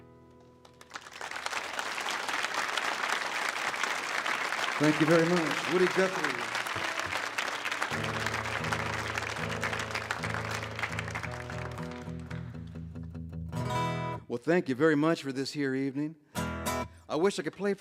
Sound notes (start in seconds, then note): 1.1 audience applauds; 7.8 guitar tuning